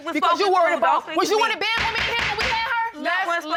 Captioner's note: gavel banging